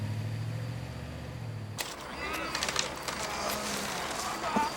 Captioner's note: grunting